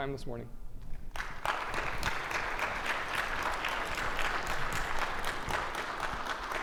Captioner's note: audience clapping